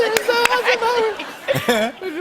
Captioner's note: laughter